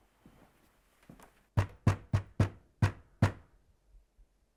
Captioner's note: loud knocking on door over muffled TV chatter; pounding on door